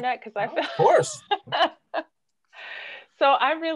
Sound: laughs

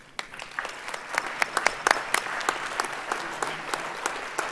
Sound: audience applauds

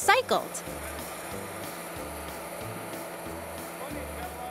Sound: engines running

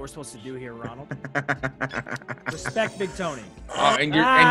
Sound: laugh

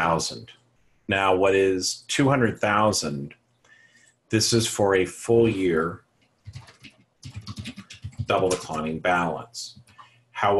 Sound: typing

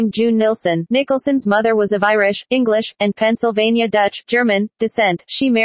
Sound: German

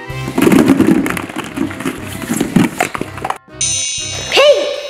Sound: balls tumbling; chiming

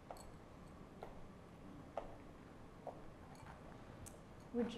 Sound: footsteps

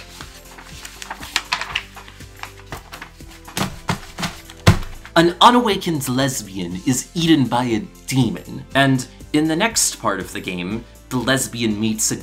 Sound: ruffles papers

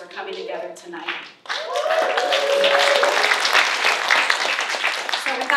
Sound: applause

